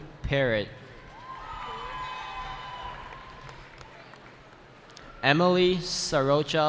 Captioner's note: cheering